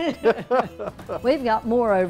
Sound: laughter

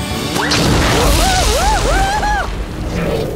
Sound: screaming, rumbling

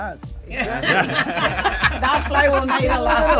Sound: all laughing

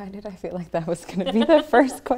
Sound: laughs

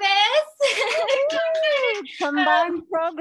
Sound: cheering and clapping

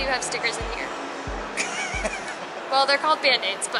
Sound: laughing

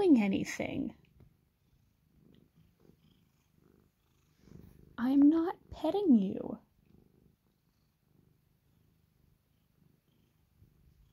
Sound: whispered

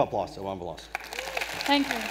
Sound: round of applause

